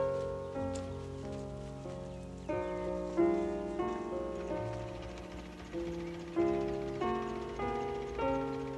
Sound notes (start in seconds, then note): 5.4 engine rumbling